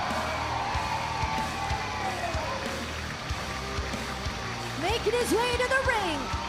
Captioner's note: cheers and applause